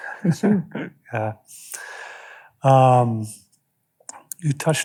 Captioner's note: chuckles